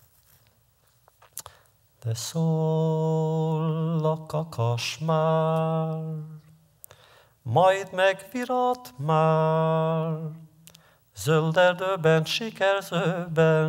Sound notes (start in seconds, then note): 1.8 Yiddish